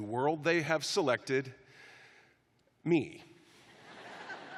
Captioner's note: laughter